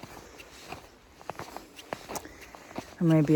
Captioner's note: snow continues crunching underfoot